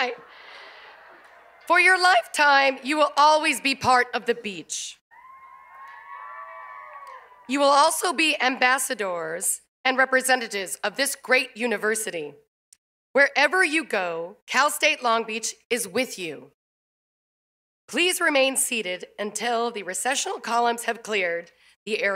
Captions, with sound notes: [LAUGHTER] THAT'S RIGHT. FOR YOUR LIFETIME, YOU WILL ALWAYS BE PART OF THE BEACH. [CHEERS AND APPLAUSE] YOU WILL ALSO BE AMBASSADORS AND REPRESENTATIVES OF THIS GREAT UNIVERSITY. WHEREVER YOU GO, CAL STATE LONG BEACH IS WITH YOU. PLEASE REMAIN SEATED UNTIL THE RECESSIONAL COLUMNS HAVE CLEARED